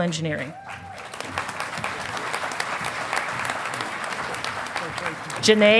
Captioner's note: audience applauding